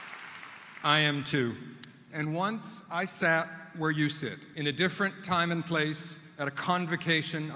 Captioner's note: applause